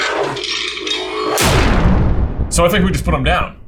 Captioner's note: gauntlets boom